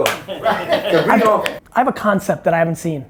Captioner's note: laughs